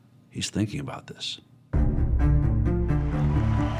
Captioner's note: crowd cheering